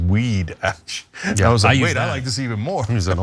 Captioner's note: laugh